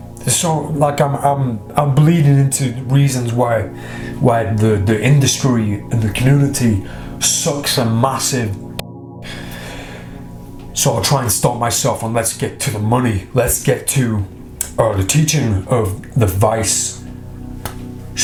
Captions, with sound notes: So, I'm bleeding into reasons why the industry and the community soaks a massive (swearing). So I'm trying to stop myself and let's get to the money, let's get to the teaching of the vice shuffle.